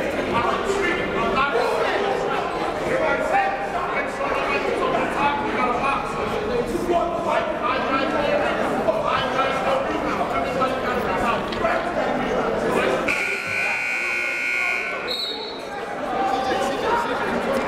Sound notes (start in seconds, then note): 13.0 buzzer; 14.5 whistle